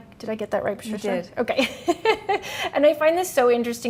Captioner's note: chuckles